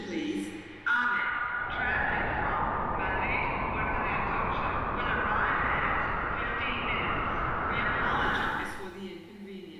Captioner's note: wind Blowing